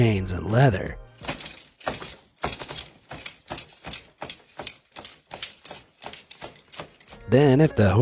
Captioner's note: chains clanks